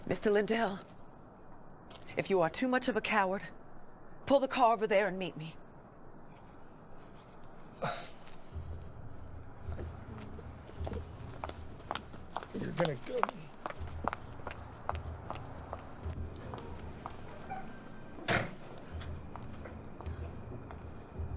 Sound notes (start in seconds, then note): 7.8 Barry sighs; 11.2 footsteps tapping; 18.2 car door slams